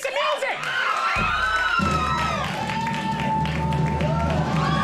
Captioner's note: audience cheering